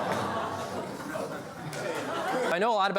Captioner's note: laughs